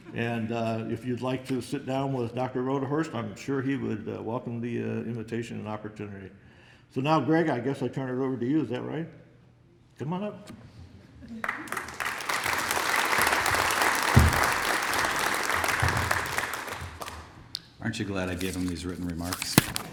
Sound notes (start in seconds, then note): 11.4 applause